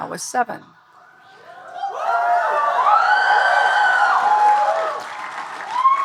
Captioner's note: audience cheering and applauding